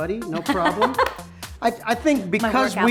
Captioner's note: laughs